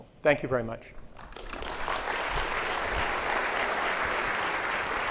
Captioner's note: audience applauds